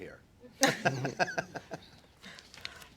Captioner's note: laughter